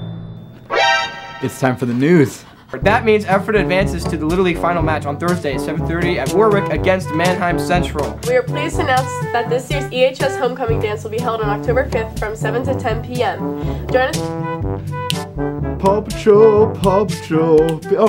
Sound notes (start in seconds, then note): 0.6 MGS alert sound effect; 17.6 snapping